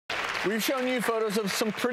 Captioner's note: applause